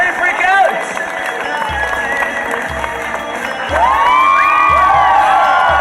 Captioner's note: audience cheering